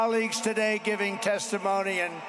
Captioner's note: applause